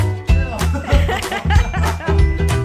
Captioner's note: giggles